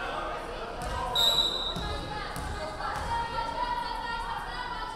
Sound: referee whistling

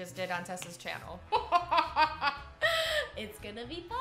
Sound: both laughing

